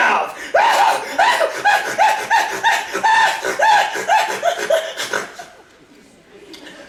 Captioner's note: snort laugh